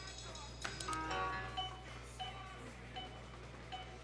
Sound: beeping

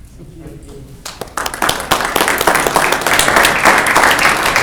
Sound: clapping

